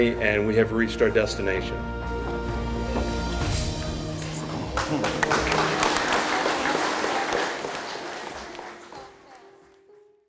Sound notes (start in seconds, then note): 2.2 soft music; 4.2 clapping